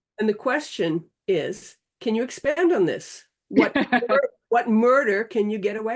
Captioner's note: laughing